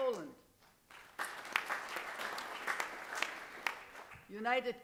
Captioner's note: applause